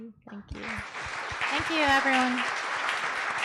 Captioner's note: applause